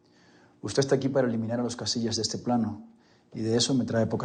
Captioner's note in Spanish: none